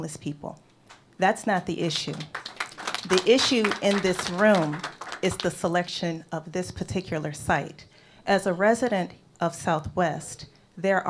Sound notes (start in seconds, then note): 1.8 applause